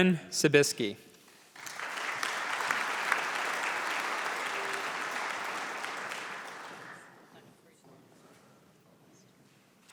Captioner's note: applause